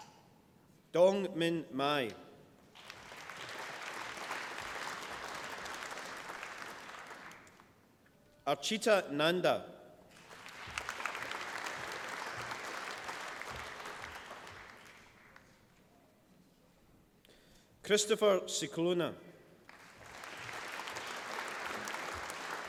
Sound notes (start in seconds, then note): 2.6 applause; 10.1 applause; 19.6 applause